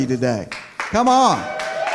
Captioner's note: cheering